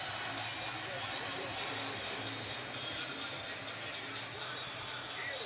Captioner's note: pa announcement